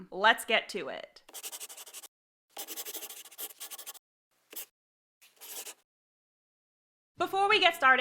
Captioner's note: the sound of a pen scratching. LOGO